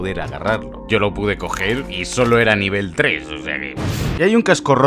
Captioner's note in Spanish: Explosión